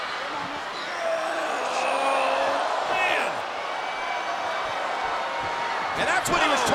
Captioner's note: Seth Rollins grunting